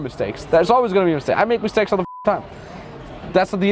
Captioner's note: beep